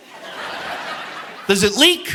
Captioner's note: audience laughing